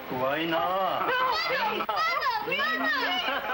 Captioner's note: speaking foreign language